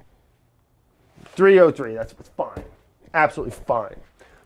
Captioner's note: box clunks